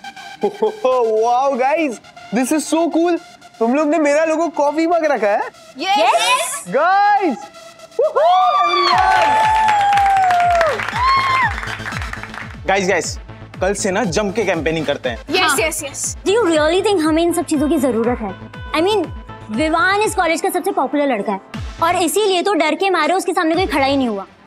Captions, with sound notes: Oh-oh-oh! Wow, Guys! This is so cool. Did you guys make a coffee mug as my logo? - Yes! - Guys! [cheering] [cheering continues] Guys, let's campaign in full swing from tomorrow. Yes... Do you think we need all these things? I mean, Vivaan is the popular guy in the college. That's why out of fear no one's contesting against him.